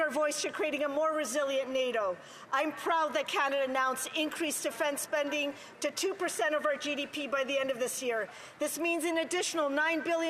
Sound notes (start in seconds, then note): none